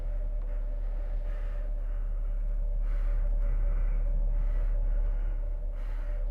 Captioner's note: Skull-Faced Assailant panting